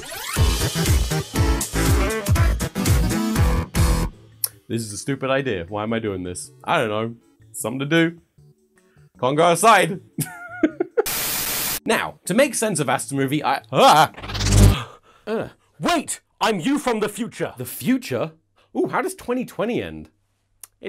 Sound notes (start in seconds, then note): 0.4 bouncy theme music; 10.3 laughs